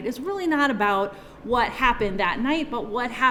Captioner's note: none